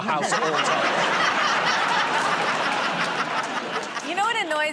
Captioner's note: laughter